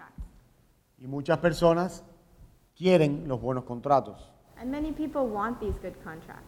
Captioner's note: speaking in Spanish